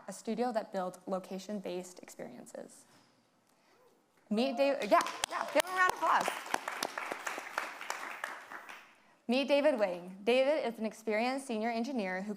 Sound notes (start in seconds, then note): 4.8 audience applauding